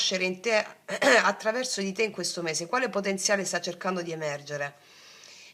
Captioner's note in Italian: schiarire la voce